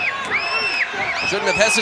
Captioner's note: Sherri screaming